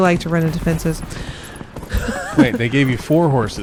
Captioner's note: laughs